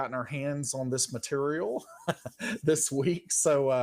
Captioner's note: laughs